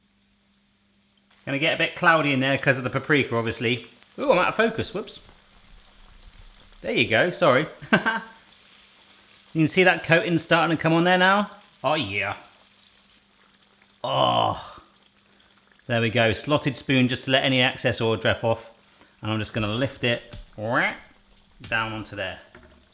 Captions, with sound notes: Gonna get a bit cloudy in there 'cause of the paprika, obviously. Ooh, we're out of focus, whoops. There you go, sorry. (laughs) You can see that coatin' startin' to come on now? Oh yeah. Oh, there we go, slotted spoon just to let any excess oil drip off. I'm just gonna lift it right down onto there.